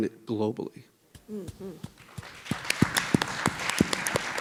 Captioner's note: people clapping